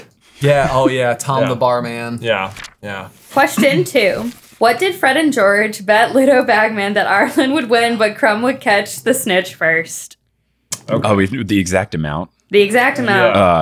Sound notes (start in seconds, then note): 2.3 paper crinkling